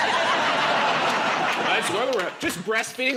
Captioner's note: laughter